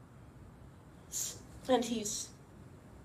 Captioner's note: sniffles